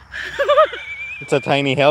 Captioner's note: laughs